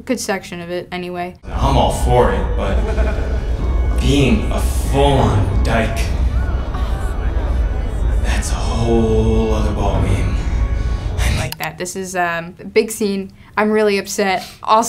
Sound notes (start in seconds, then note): 1.5 some guys laugh; 6.4 audience murmurs